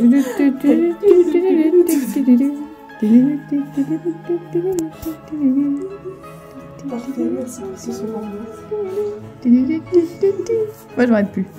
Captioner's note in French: chantonne